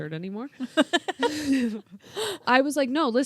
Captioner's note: laughs